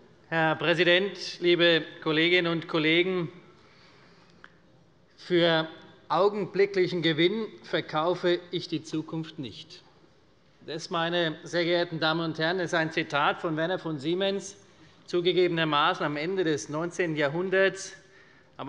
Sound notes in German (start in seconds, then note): none